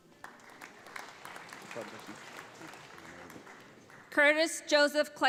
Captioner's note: audience applauds